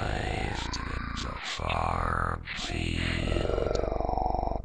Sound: cheap video game voice

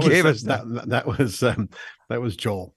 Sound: laughs

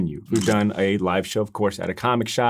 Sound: camera shuttering

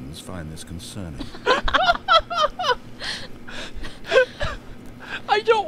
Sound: laughs

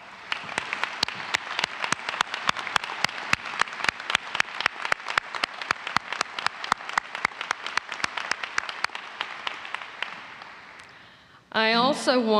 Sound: applause

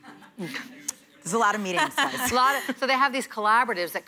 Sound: laughter

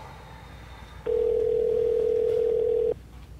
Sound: dial tone

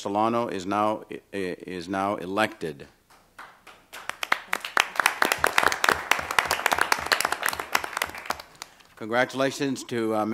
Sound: applause

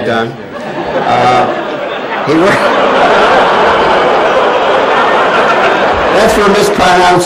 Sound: laughter

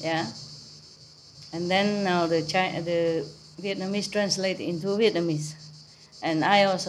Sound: Vietnamese

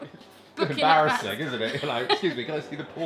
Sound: laughter

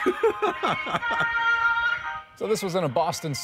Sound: laughter

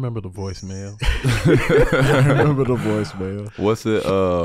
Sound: all laughing

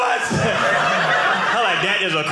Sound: audience laughing

